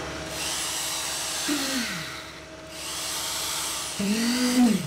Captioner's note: machine revving